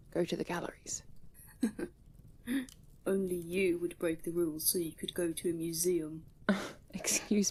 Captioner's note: James laughs